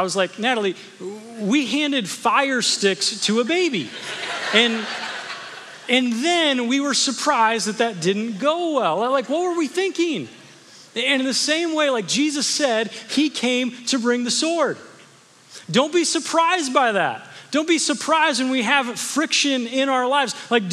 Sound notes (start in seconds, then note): 3.8 congregation laughing